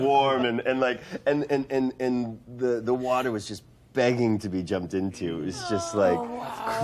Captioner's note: stammering